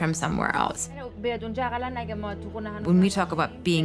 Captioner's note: speaking in foreign language